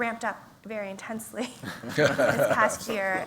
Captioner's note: laughter